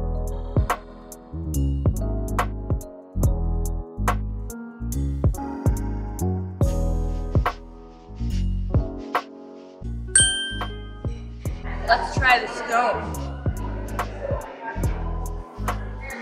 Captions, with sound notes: (dinging) Let's try the scone. (mellow music)